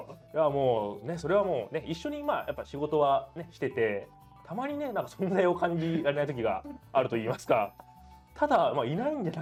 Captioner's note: laughs